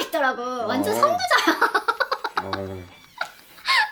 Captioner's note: laughs